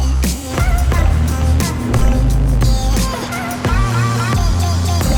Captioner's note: soft engine sounds